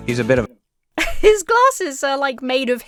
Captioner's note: chuckles